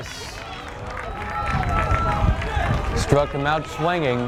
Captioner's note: fans applaud